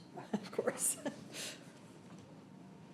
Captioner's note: chuckles